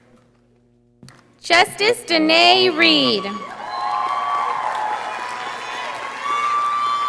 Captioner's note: audience applauding